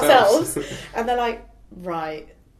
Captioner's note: chuckling